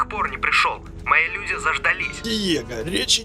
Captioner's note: on phone